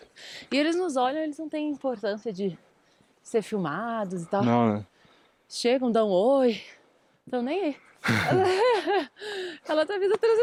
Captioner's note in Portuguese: risadas